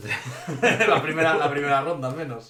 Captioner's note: laughs